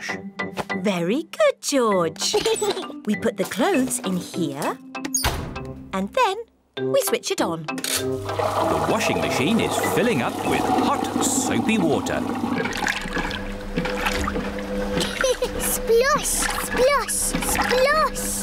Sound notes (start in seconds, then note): 12.4 machine rumbles; 15.0 giggles